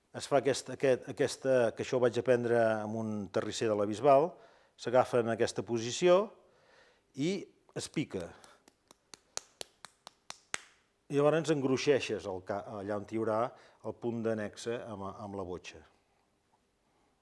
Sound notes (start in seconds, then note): 7.8 sounds of hand hitting the clay